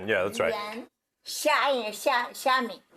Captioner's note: speaking Mandarin